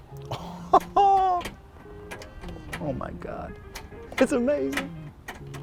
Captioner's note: laughs